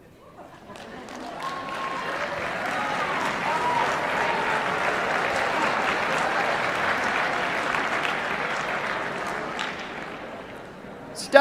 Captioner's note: applause